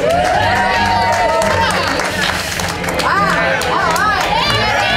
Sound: lots of crowd cheering

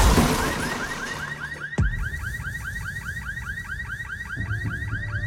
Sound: car alarm wails

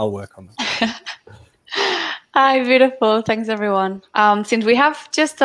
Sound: chuckles

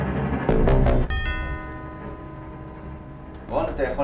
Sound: door bell

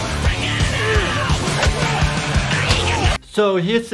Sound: intense rock music; loud grunting

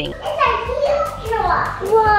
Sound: child yells

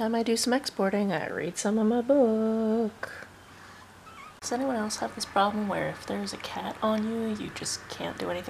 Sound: meow

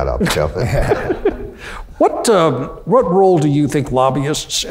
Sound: laughs

